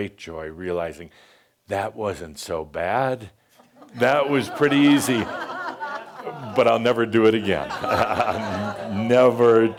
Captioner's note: laughter